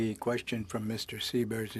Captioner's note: speaking in French